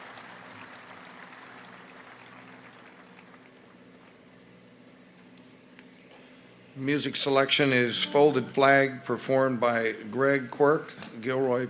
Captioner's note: applause